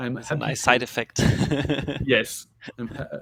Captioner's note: laughs